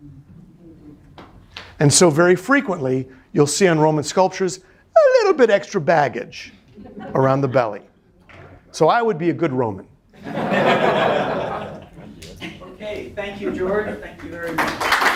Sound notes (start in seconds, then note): 10.1 students laughing; 14.1 students applauding